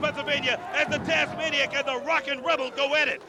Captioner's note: crowd cheering